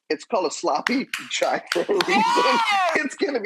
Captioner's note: clapping